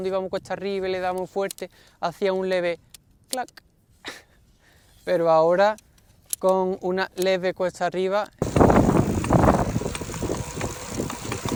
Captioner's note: click